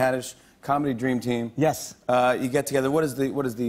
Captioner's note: normal voice